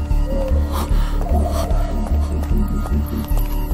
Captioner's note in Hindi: हांफते हुए